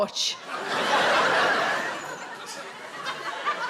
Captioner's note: audience laughs